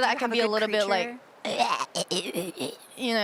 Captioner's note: is imitating the sounds of creatures